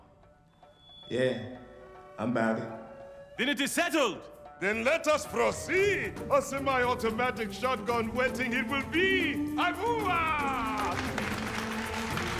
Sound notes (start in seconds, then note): 9.6 Izzi exclaims; 10.4 applause